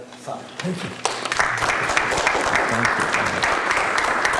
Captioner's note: applause